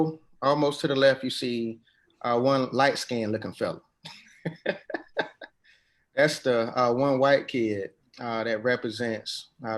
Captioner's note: laughs